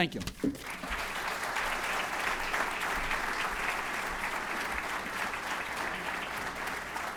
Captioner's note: applause